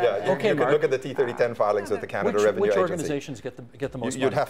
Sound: mixed voices

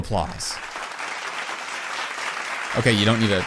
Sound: clapping 👏

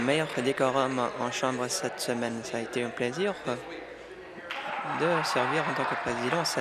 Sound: applause

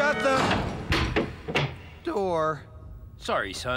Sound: door Slams Shut

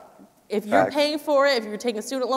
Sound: laughing

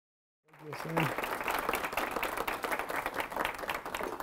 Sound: audience applauding

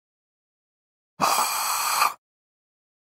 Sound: sound of artificial breathe

